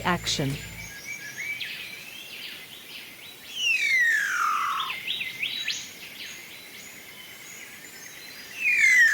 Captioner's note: birds sounds and display calls